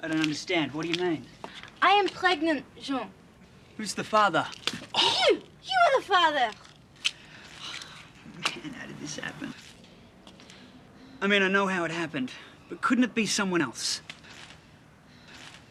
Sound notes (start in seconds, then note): 5.2 John groans